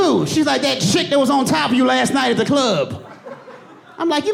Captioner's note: audience laughing